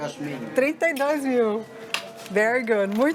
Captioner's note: in Spanish; in Portuguese